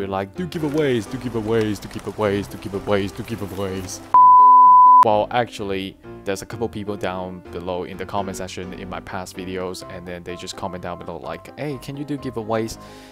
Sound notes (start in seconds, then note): 4.1 beeps